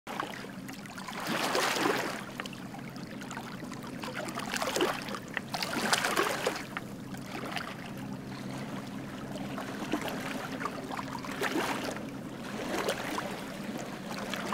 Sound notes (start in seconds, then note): 0.0 water lapping